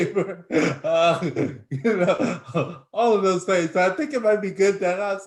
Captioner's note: laughs